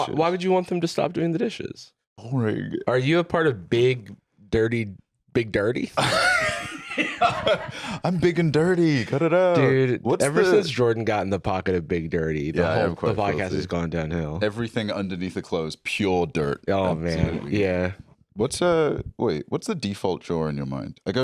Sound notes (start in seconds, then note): 6.0 laughs